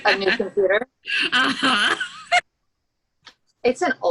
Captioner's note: laughing